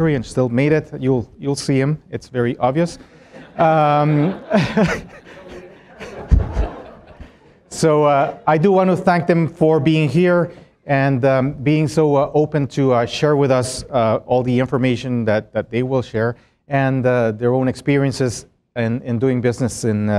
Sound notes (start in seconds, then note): 5.3 laughter